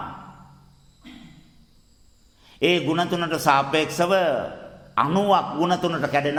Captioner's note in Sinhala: උගුර කෑරීම